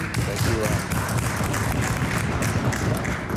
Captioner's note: applause